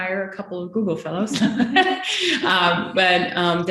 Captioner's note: laughing